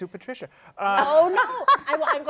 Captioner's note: laughter